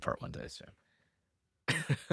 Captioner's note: laughs